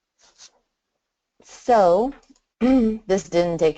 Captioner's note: clears throat